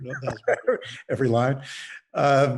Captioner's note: laughs